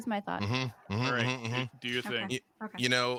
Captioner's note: murmurs